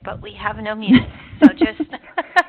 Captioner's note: laughing